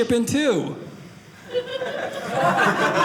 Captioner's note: audience laughing